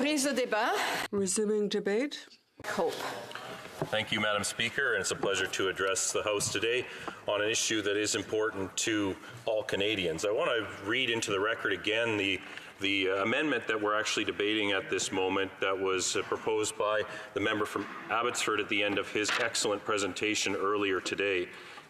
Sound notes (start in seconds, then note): 4.4 speaking French